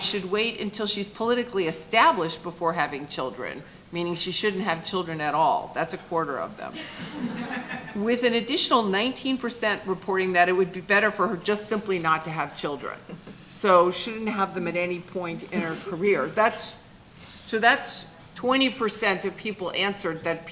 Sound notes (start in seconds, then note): 6.8 chuckling